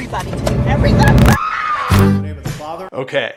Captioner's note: mom screaming